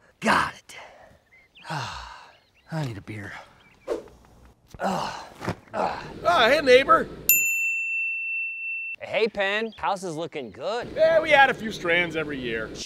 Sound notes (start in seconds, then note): 1.5 sighs; 5.7 grunts; 7.3 bell rings